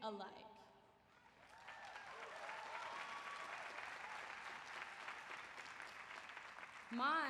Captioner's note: applause